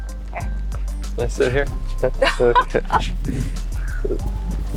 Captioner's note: laughter